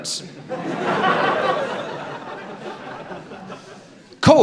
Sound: laughter

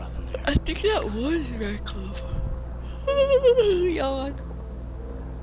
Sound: through a yawn

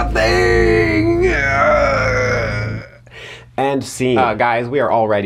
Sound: faux growls

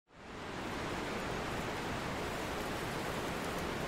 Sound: water rushing

